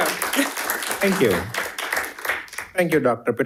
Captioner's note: audience applauding